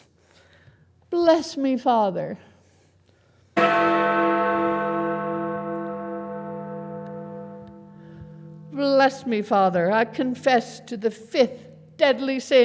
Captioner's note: bell rings